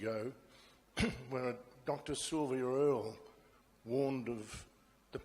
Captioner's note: clears throat